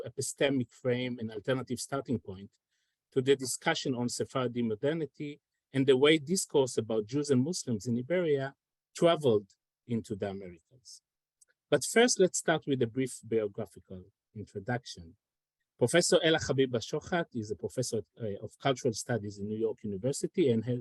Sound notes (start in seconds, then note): none